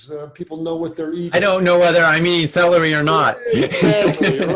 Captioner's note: laughs